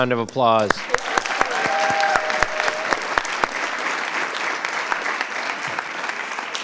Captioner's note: audience applauding; audience cheering